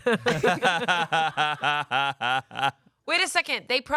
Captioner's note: laugh